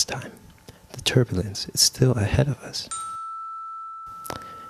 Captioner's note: chime